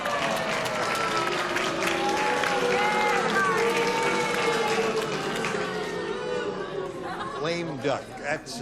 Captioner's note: applause; booing